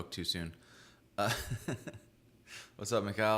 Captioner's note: laughs